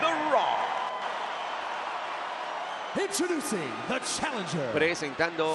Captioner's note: applause